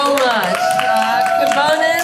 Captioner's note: applause, cheering